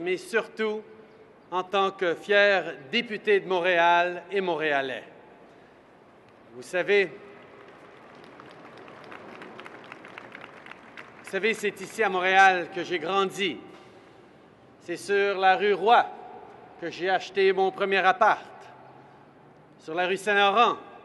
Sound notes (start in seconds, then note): 7.3 applause